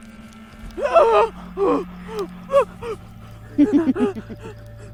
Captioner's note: Andrea gasping; Katyn laughing